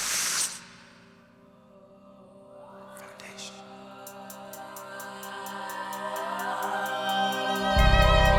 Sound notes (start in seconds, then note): 4.0 audience whooping